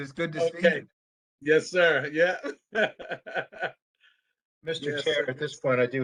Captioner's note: laughter